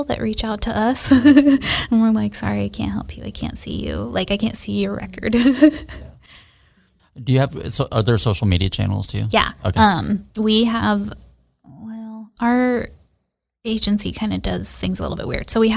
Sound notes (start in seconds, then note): 1.0 laughs; 5.4 laughs